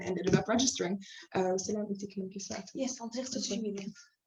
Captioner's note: non-english speech